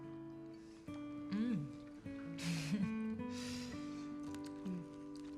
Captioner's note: chuckles